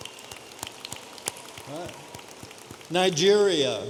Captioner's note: audience applauding